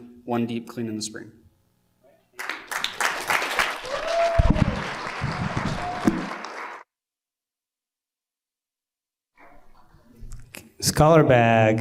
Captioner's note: applause